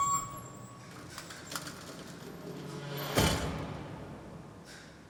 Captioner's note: door squeaks and closes